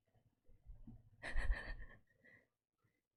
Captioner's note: laughs